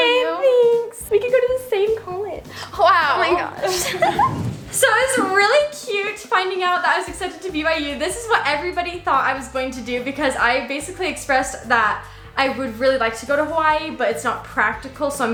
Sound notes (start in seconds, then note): 3.1 giggles